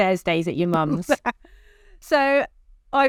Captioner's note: laughs